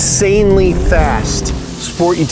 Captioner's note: engine revving